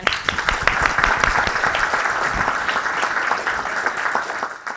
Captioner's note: audience clapping